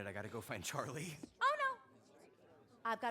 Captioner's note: none